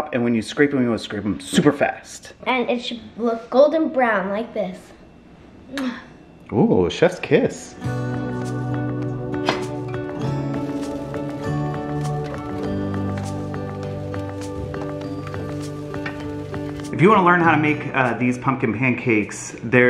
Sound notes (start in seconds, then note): 5.8 smooches; 7.8 pleasant music